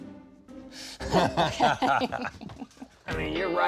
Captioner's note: laughs